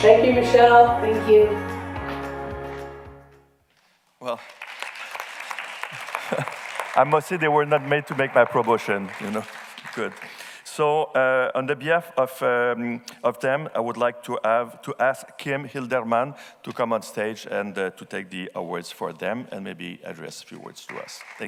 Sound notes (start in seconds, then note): 4.2 audience clapping